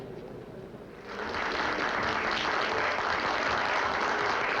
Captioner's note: applause